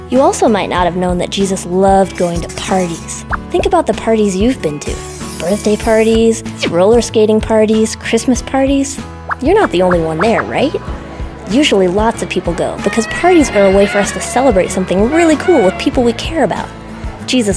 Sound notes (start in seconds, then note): 9.6 crowd chatter; 13.3 party horns